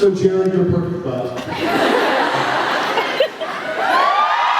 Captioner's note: laughs; cheers